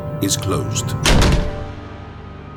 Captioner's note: door slams